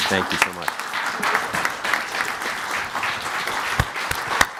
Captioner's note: crowd applauding